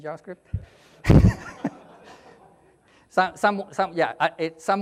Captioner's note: audience laughs